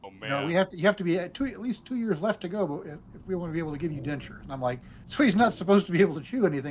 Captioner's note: engine rumbling